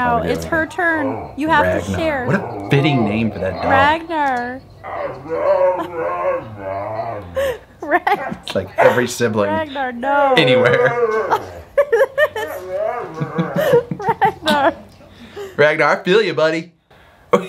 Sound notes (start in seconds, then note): 5.1 dog whining; 13.3 dog whining; 13.3 laughing; 17.3 laughing